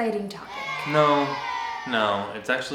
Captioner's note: child booing